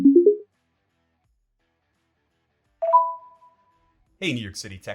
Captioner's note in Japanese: 通話接続